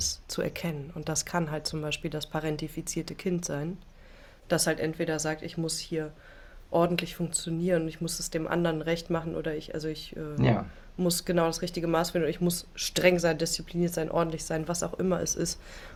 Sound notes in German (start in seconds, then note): none